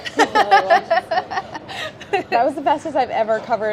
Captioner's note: laughing